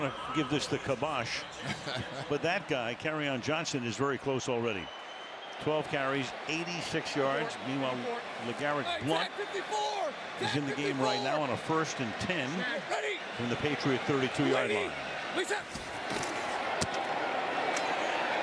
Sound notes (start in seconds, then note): 1.6 laughs